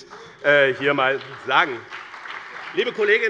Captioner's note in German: Beifall bei dem BÜNDNIS 90/DIE GRÜNEN und der CDU